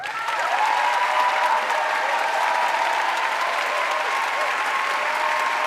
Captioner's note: audience applauding and cheering